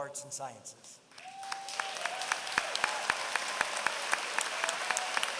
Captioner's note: applause